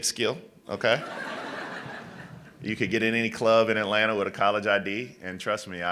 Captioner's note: laughter